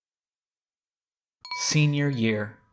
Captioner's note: chime sound